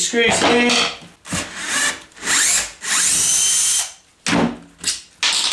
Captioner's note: drilling noise